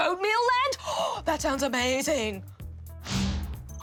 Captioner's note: gasps